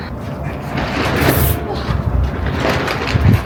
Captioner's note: flap flap